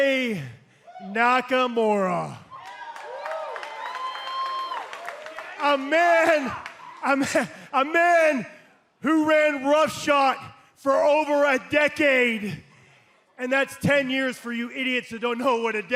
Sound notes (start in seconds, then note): 2.4 cheers and applause